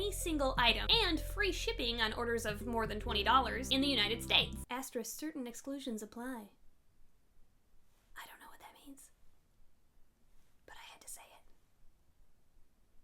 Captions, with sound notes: Single item and free shipping on orders of more than $20 in the United States. Astro certain exclusions apply *whispers* I dont't know what that means. But I had to say it